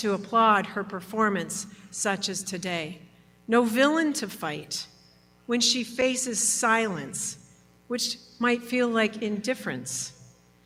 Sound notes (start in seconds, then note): none